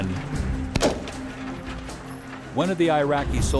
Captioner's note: voiceover; gun shot